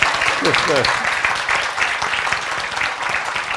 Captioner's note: applause